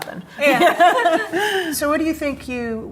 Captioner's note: laughs